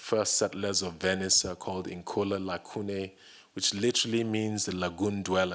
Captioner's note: italian